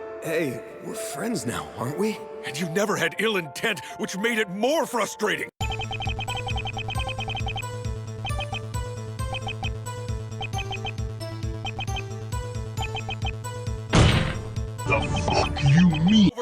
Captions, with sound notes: Hey, we're friends now, aren't we? And you never had ill intent, which made it more frustrating. (electronic beeping) (door slams) The fuck you mean?